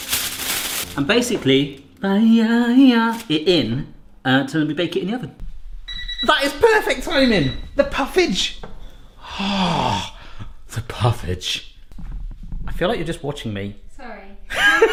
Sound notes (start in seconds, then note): 5.8 beeping